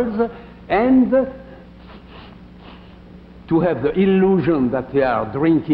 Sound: sniffing

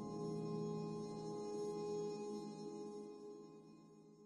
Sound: none

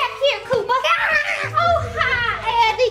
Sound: girl cheers

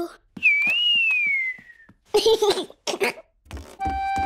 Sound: whistling and giggling

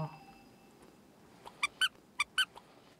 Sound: eating

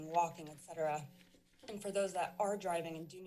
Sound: rustling sound

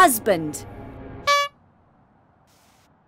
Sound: horn honking

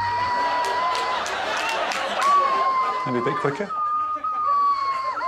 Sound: swanee whistle whistling; audience laughing; upbeat music; swanee whistle whistling

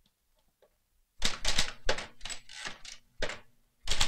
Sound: loudly typing

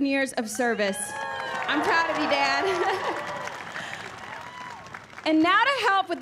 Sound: cheering and applause

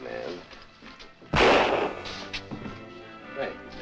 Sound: fires gun

